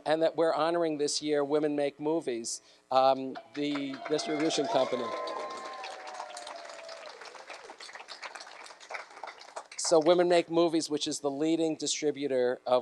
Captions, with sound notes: And that we're honoring this year, Women Make Movies. (clapping and cheering) So, Women Make Movies, which is the leading distributor